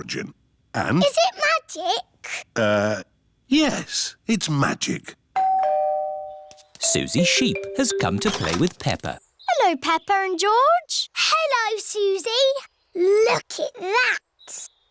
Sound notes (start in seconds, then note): 5.4 doorbell